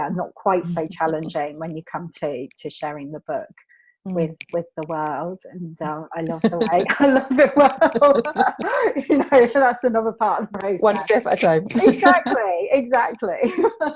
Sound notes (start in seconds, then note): 6.3 laughs; 13.5 laughs